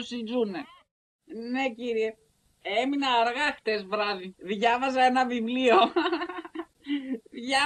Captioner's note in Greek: γέλια ^_^